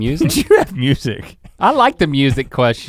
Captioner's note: chuckles